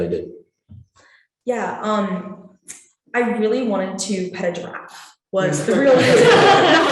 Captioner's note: laughing